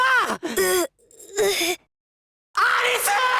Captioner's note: pained groan